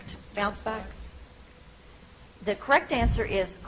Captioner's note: contestant speaks faintly